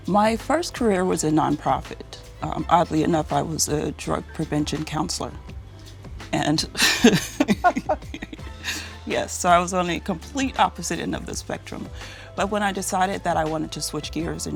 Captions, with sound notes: My first career was a nonprofit. Oddly enough, I was a drug-prevention counselor. (both laughing) Yes, so I was on a complete opposite end of the spectrum. But when I decided that I wanted to switch gears